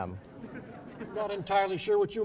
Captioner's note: laughing